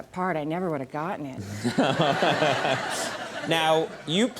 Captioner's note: Conan and audience laughing